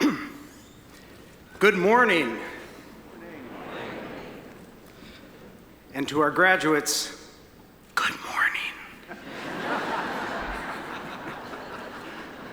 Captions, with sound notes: (clearing throat) Good morning! And to our graduates, (whispering) good morning. (audience laughing)